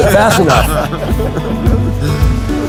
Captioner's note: laughing